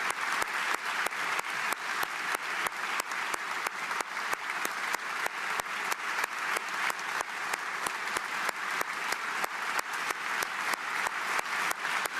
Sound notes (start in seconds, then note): 0.0 applause